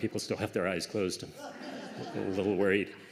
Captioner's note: laughter